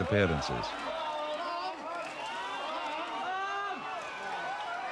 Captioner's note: crowd shouting